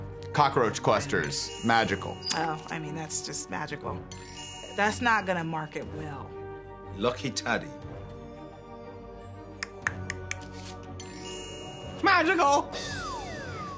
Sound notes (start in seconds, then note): 1.3 magical chime; 9.6 clicks tongue; 10.9 magical chime